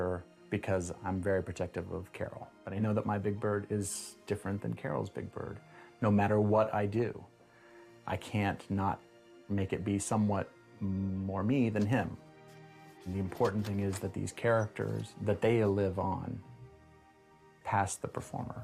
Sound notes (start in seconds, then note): none